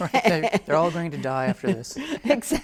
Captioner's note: both laugh softly